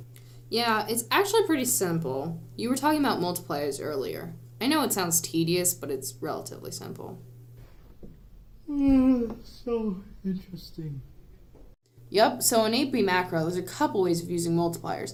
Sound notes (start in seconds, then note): 8.6 yawns